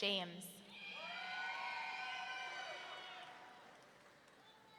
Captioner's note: audience cheering